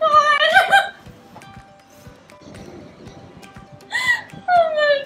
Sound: sobbing

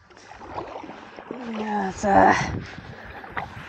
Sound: paddling

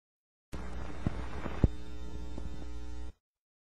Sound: 50s TV static

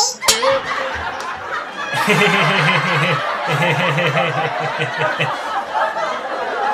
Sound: Enrique chuckles nervously

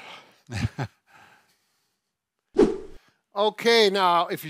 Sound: chuckles

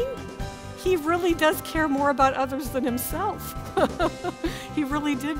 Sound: laughter

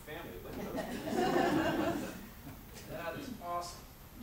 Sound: audience laughs

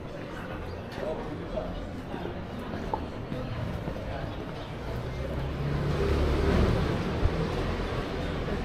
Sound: engine revving

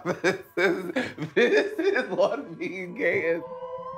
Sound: laughing; mysterious music

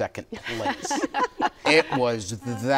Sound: laughter

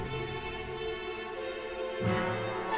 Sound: none

